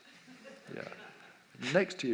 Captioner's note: audience laughs